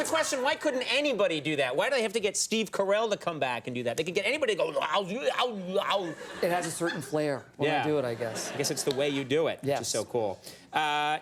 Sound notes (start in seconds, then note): 4.9 imitates sloppy mouth sounds